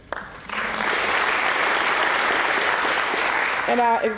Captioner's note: applause